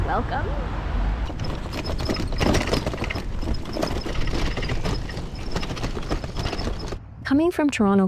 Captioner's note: bike rattling loudly